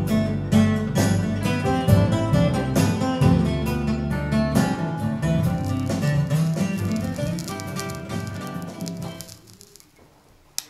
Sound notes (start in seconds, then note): 7.7 soft crackling; 9.4 music stops